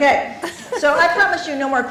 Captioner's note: laughter